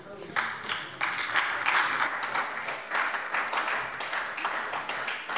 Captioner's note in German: Beifall bei der SPD